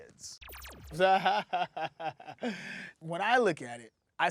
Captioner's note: laughing